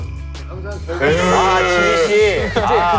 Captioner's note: cried